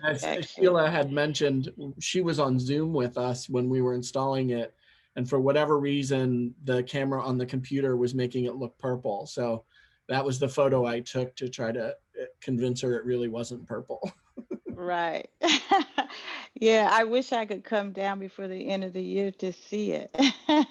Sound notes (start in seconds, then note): 14.4 laugh